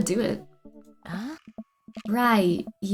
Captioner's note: sighs